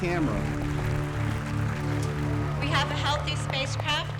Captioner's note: applause